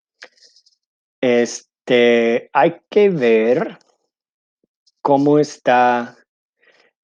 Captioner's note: speaking in foreign language